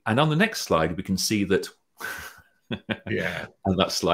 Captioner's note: laughs